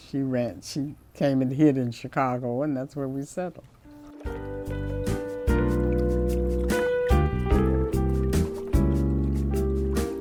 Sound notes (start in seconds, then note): 3.8 blues music; 3.9 water flows